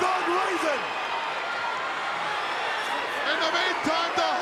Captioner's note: crowd cheering